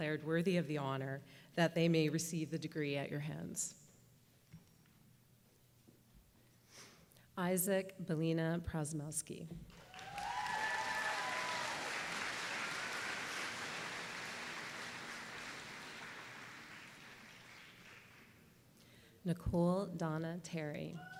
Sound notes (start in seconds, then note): 9.7 applause